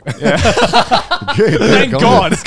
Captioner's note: all laughing